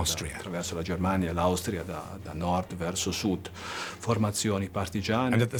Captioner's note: speaks in foreign language